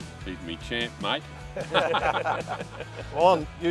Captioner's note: laugh loudly